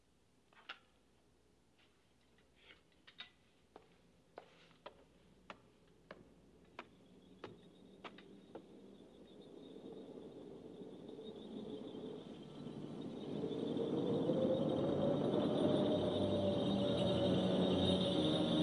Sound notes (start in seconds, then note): 6.9 bells jingling